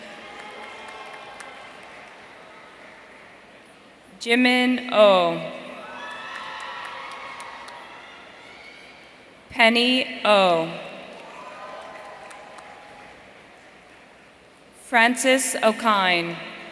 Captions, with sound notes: Jimin Oh. (audience cheering) Penny Oh. Francis Okine.